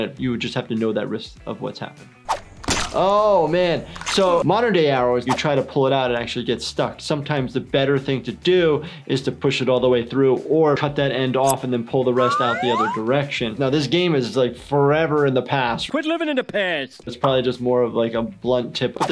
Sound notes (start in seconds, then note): 2.7 squelching; 11.2 scissor snips; 12.2 slide whistle